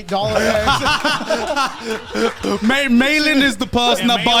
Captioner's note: all laughing